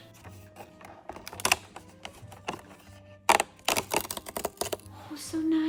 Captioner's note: cardboard crinkling